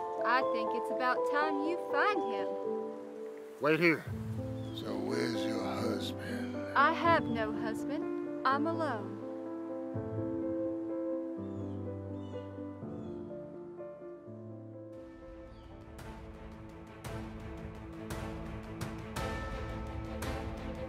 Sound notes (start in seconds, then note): 9.7 gentle upbeat music; 11.0 birds chirping; 16.0 upbeat music